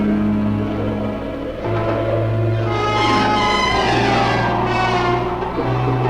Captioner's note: wind blowing swiftly